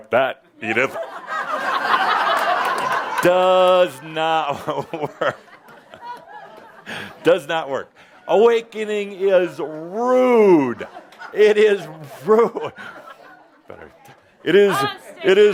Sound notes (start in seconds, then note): 0.6 laughter